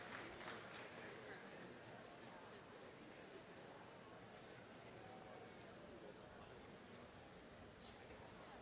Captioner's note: applause; background chatter